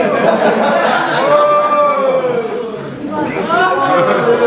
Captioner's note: audience cheering